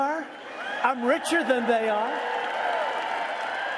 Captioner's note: cheering